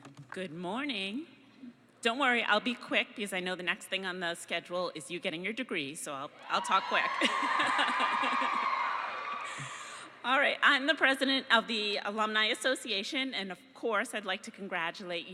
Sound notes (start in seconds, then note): 6.4 cheering; 7.6 laughing